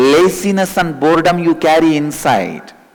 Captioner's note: hindi